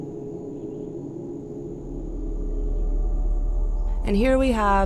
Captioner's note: insects chirp; intense music